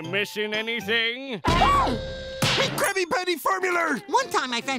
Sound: gasps

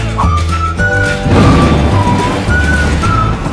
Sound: thunder

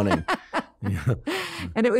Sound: laughing

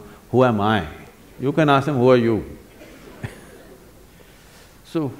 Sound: laughs

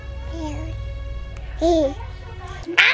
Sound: giggles

